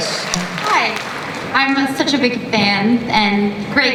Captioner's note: voiceover